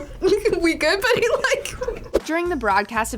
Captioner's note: laughs